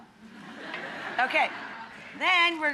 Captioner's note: audience laughing